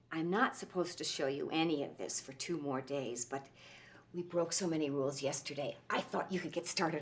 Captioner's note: none